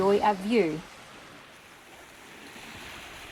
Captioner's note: waves lapping